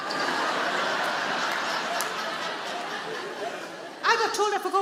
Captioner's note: audience laughing